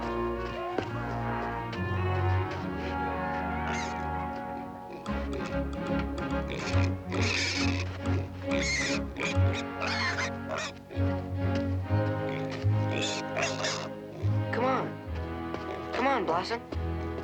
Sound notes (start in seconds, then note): 3.1 squeals